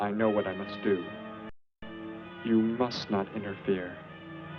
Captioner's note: engine revs